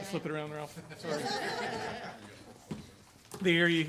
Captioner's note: group laughing